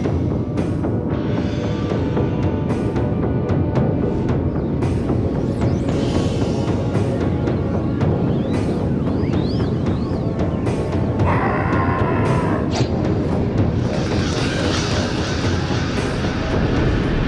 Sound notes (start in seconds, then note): 0.1 music grows in intensity; 5.0 amped up music; 5.0 whistling wind; 12.0 amped up music; 12.6 swoosh; 13.8 amped up music; 13.8 cawing and flapping; 17.1 amped up music